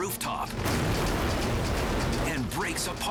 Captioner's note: helicopter slams